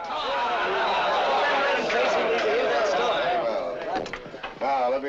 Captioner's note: they all assent loudly